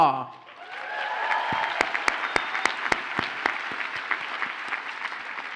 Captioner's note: audience cheers and applauds